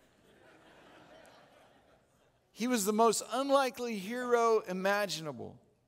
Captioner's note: audience Laughing